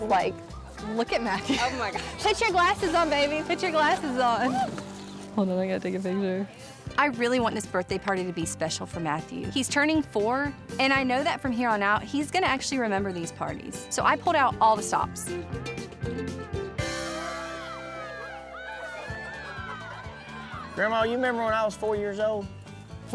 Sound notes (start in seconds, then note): 16.4 children shout playfully